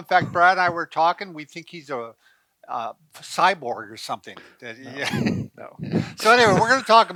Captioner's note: chuckling